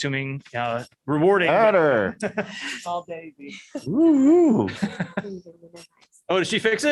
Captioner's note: laughter